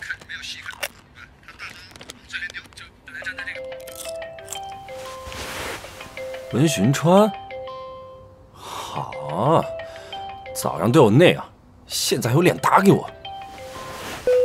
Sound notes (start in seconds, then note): 3.2 WeChat call notification